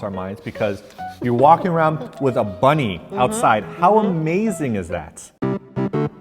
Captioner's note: laughing; game music